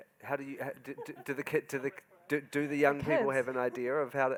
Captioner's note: laughing